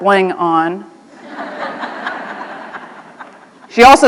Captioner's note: laughter